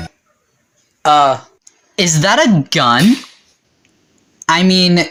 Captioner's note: gunshot noises